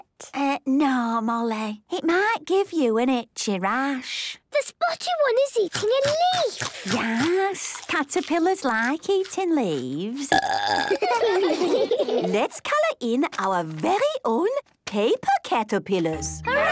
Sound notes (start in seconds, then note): 10.2 burping; 10.7 children giggling